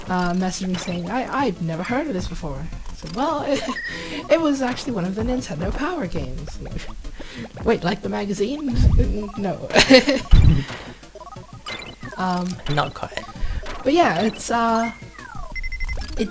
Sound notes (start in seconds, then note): 11.2 laughs